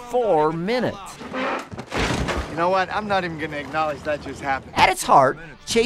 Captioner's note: desk sound